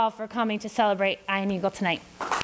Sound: applause

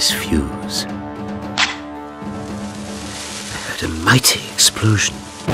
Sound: A spark and the crackle of burning

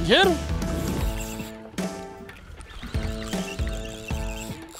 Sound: reel whirring

